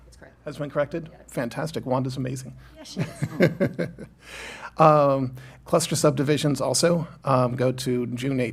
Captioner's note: laughter